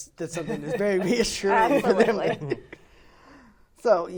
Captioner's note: laughing